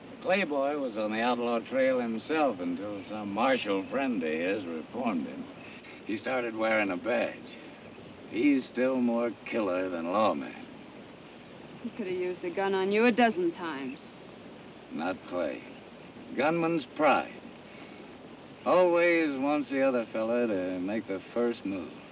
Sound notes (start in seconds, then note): none